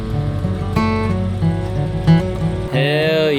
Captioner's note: revving engine